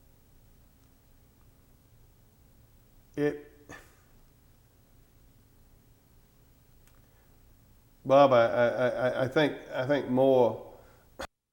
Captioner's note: audio gap